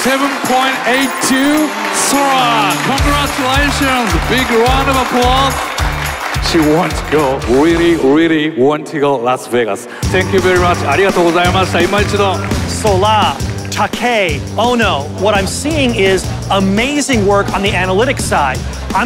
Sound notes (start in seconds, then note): 5.6 crowd cheering; 11.5 speaks Japanese